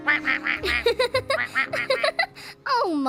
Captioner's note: quacking; laughing